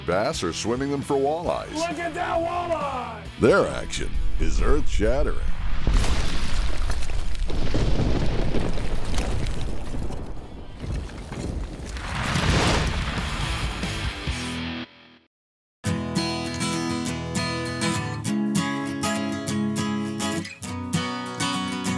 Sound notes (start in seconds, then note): 3.8 voiceover; 5.3 thunder; 15.8 soft guitar music